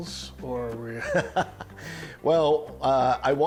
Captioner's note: laughing